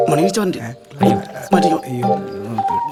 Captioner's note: humming